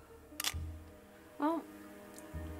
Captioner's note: shutter clicks